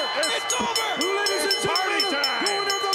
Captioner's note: bell ringing